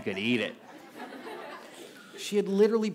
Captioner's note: laughter